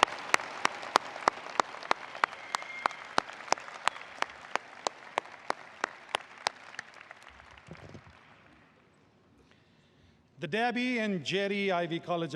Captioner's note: applause